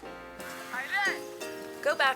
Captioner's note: upbeat instrumental music; speaking in foreign language